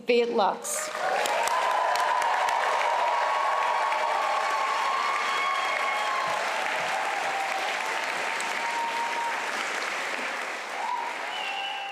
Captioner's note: cheering and applause